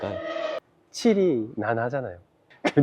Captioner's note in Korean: 일본어로